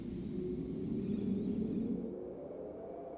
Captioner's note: wind blowing